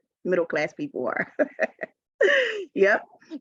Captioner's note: laughing